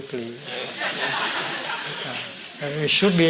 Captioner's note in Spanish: Risas